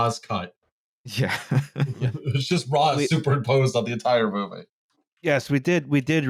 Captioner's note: laughing